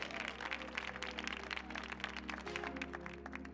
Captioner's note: audience cheering; audience applauding; slow upbeat music